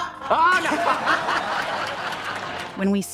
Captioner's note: laughter